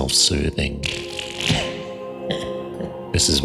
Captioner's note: chortles